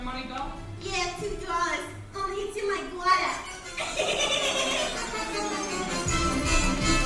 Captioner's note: cackles